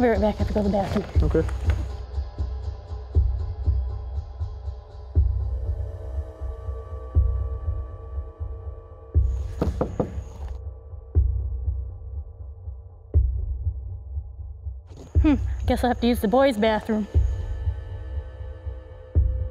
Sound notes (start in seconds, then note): 9.4 knocking